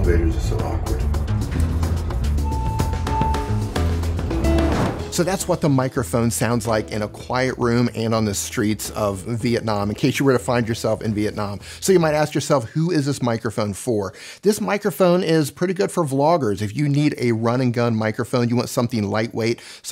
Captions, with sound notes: Elevators are so awkward. (elevator beeps) So that's the microphone sounds like in a quiet room and on the streets of Vietnam. In case you were to find yourself in Vietnam. So you might ask yourself, who is this microphone for? This microphone is pretty good for vloggers. If you need a run and gun microphone, you want something lightweight,